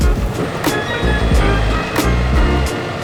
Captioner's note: tow truck winch whirring; upbeat instrumental music continues